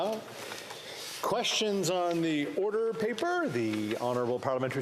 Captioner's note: speaking French